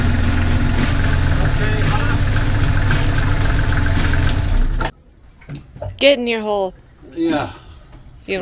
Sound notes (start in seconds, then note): 7.1 laugh